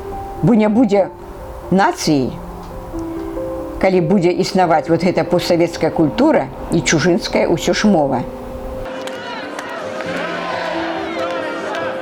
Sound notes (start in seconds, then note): 7.5 Russian